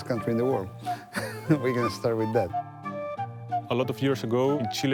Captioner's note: laughing